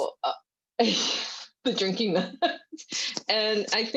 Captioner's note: laughs